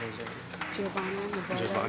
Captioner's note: applause